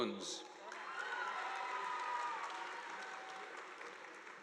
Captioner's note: audience applauding